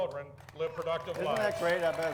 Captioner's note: audience applauds